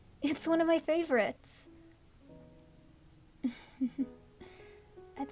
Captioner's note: soft giggle